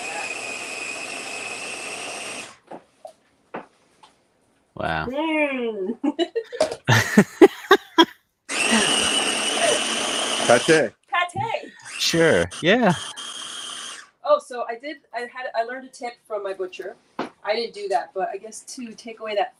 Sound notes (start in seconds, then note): 5.8 laughs; 8.5 blender whirling